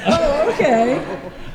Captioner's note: laughter